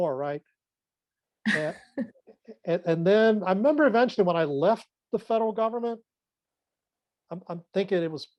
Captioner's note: laughs